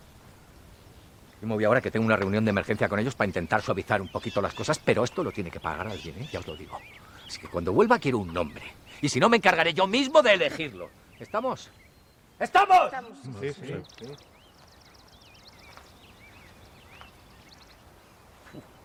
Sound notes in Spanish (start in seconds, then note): 12.1 grita